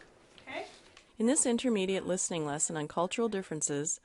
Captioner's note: voiceover